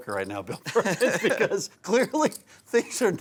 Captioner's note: announcers laughing